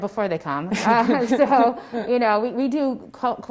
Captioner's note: laughs